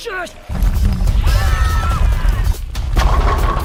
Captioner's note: screaming